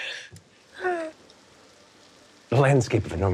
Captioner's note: rainfall pattering